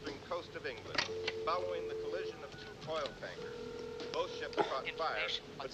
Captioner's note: touch tones, ringing